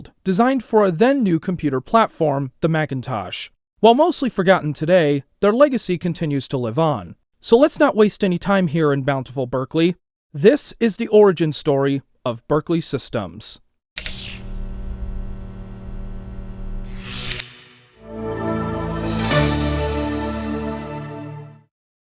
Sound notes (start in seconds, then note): 14.1 electric sounds; 17.9 jingle